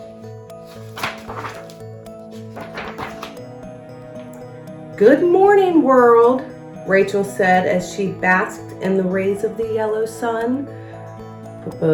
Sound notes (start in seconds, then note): 0.6 page shuffles